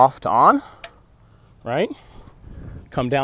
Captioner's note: click